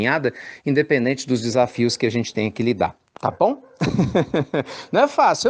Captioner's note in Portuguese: Risos